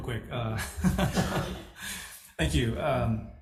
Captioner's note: all laugh